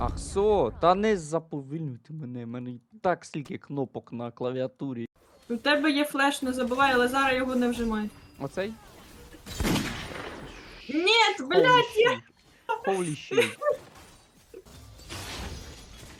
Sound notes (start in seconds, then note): 9.4 gunshot